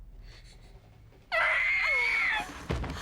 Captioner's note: screaming